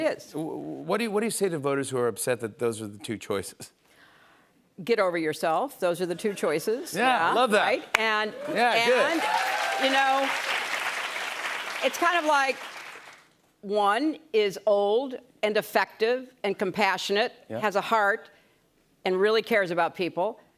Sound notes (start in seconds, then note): 10.6 applause